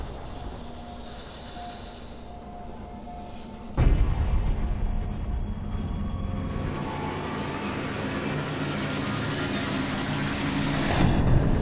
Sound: snake hiss

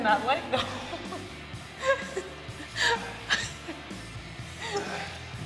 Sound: laugh

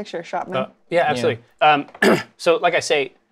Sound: clears throat

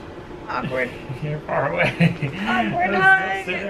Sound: laughs

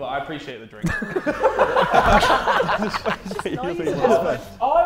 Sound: Sidemen laughing

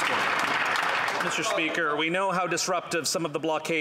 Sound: applause

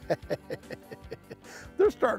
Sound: chuckling

